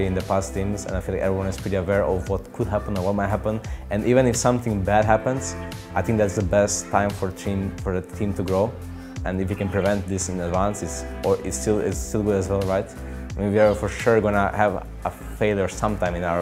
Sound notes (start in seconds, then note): none